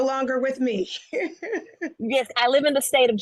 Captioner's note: chuckles